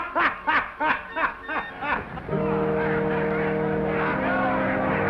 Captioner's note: bartender laughs loudly; commotion; somber organ music